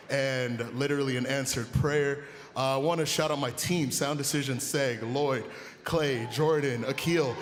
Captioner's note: cheering and applause